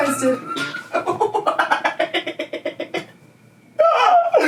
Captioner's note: laughing